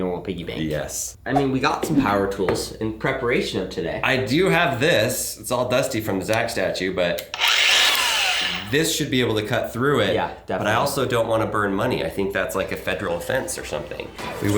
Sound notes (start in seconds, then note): 7.2 power tool whirs